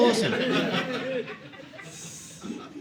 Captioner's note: audience laughing